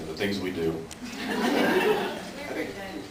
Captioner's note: laughs